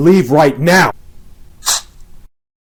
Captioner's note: knife stabbing